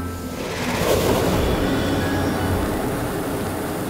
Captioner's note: flames swoosh